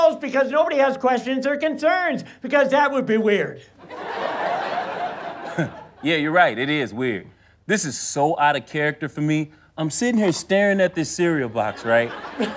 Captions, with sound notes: because nobody has questions or concerns, because that would be weird. [audience laughter] - [chuckles] Yeah, you're right, it is weird. This is so outta character for me, I'm sittin' here, starin' at this cereal box, right?